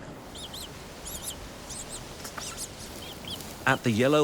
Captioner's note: penguin chicks chirping